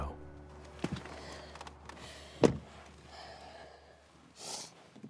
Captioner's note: Keely breathes heavily; Keely sniffles